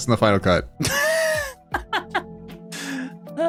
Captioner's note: laughing